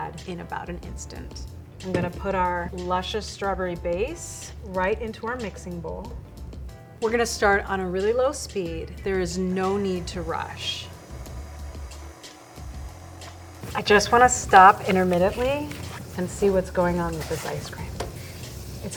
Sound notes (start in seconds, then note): 11.1 machine whirring